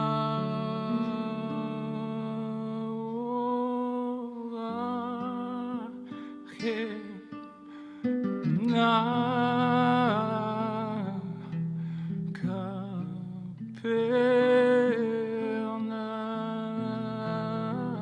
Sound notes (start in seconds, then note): 7.3 soft sigh